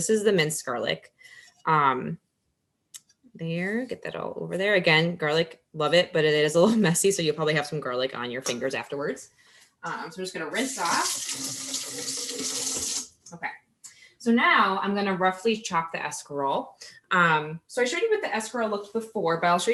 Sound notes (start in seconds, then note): 10.4 water running